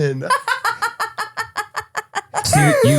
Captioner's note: laughing